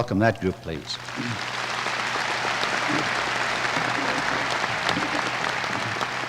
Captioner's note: applause